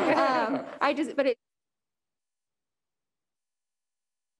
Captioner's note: members laughing; faintly speaking